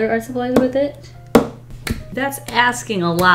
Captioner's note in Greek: Χτυπά το δάχτυλο στο γραφείο